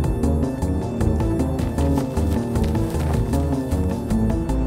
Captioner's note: footsteps pattering; engine revving